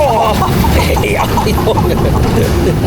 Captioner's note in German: schreien